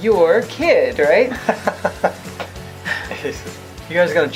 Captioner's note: laughs